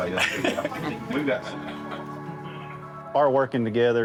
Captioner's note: firefighters laughing